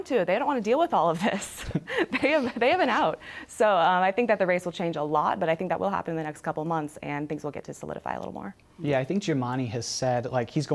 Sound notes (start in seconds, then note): 1.7 laughs